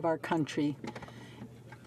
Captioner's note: speaking in French